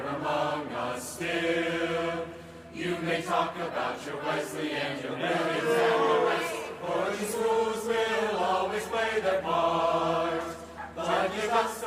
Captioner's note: cheering and applause